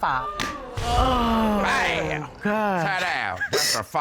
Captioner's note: audience exclaims